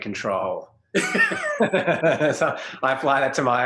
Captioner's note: both laugh